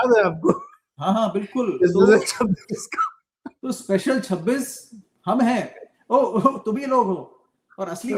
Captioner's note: laughter